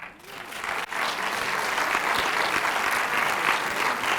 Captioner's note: audience applauds